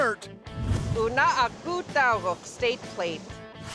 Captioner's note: speaking yupik